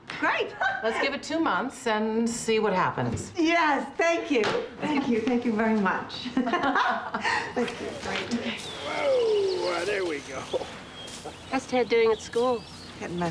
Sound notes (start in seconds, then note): 6.3 both laugh